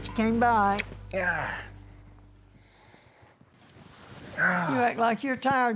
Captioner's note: sighing